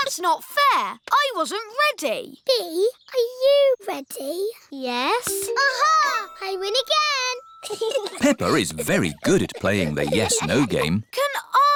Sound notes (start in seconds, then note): 7.6 chuckles